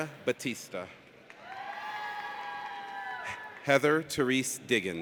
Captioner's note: audience cheers